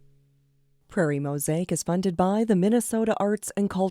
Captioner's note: voiceover